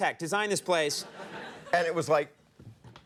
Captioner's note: audience laughs